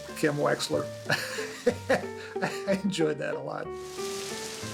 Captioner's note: laughs